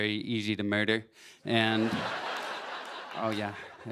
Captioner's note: laughter